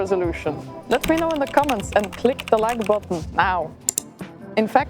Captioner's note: keyboard typing; mouse click